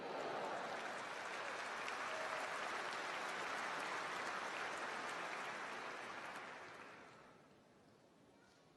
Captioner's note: applause